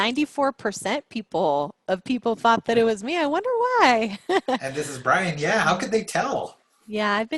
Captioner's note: laugh